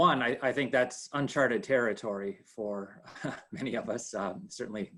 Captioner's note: laughs